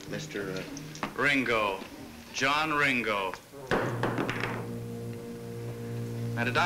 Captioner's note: glass thuds